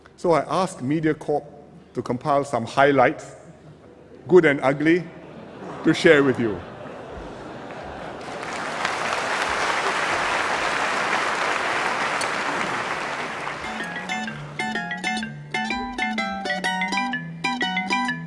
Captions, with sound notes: So I asked Mediacorp to compile some highlights. Good and ugly, to share with you. [Laughter and applause] [Video and music plays]